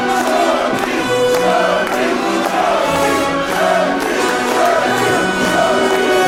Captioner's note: chanting